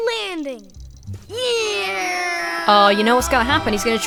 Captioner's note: imitates plane engine